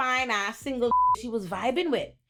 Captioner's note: beep